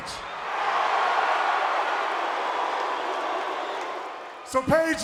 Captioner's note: crowd cheering